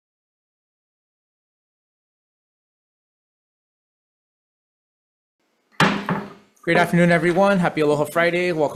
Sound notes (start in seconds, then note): 5.8 gavel slams